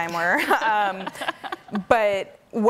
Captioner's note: women laughing